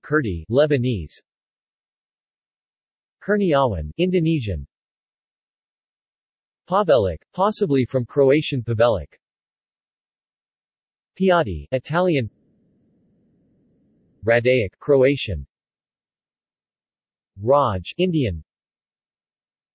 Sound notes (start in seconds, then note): 12.6 Italian; 15.4 Croatian